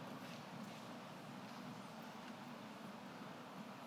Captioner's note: none